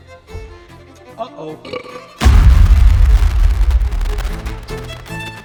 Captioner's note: explosion; belch